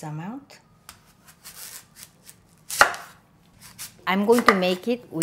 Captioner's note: crunching knife chopping